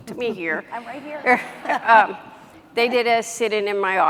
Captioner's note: chuckles